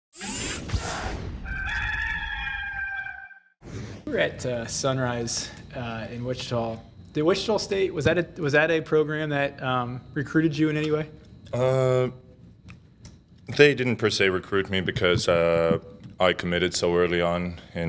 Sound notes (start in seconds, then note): 0.2 hydraulics whirring; 1.4 rooster crows